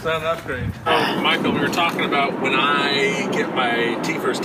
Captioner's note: grunts